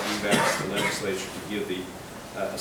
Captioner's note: man coughing drowns speaker